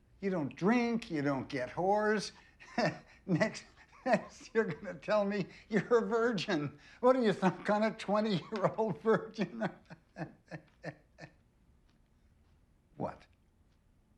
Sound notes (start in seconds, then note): 2.3 chuckling; 9.8 Richard laughing